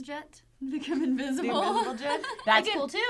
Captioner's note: laughing